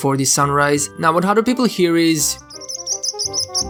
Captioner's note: chirp chirp